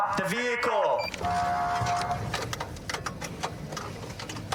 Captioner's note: horn blaring